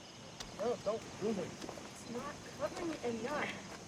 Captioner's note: insect chirps; French